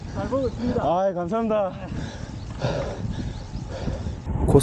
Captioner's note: out of breath